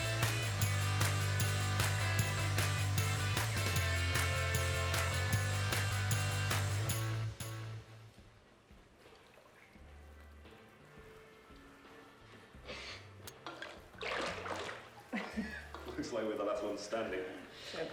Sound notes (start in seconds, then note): 10.2 soft music; 15.1 Nick laughs